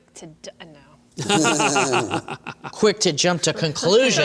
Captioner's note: laughter